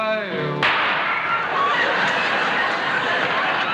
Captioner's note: gunshot